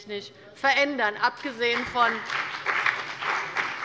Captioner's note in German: Beifall bei der CDU und dem BÜNDNIS 90/DIE GRÜNEN